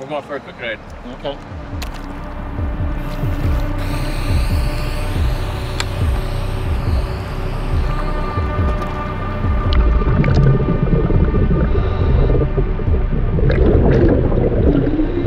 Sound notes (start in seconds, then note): 2.3 dramatic music; 2.9 air hissing; 10.0 dramatic music; 10.0 water bubbling